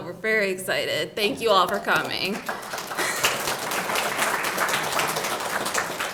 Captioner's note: audience applauding